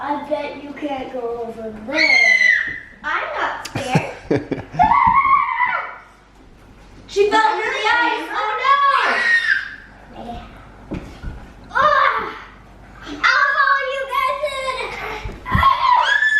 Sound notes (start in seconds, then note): 1.9 screams; 4.8 screams; 8.9 screams